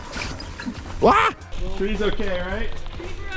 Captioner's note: shouts